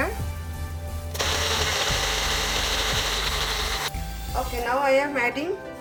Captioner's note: blender whirring